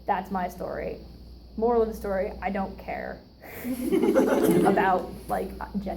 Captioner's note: audience laughs